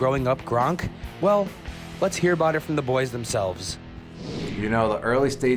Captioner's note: swish